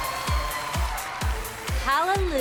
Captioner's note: cheering, whooping